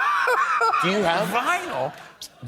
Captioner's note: laughs